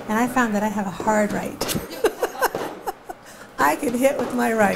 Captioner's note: laughing